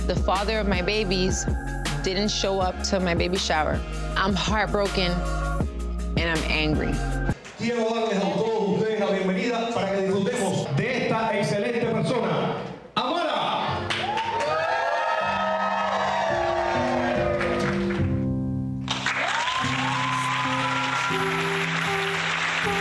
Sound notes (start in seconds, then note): 7.4 host speaking Spanish; 13.7 crowd cheering and applauding; 22.6 crowd cheering and applauding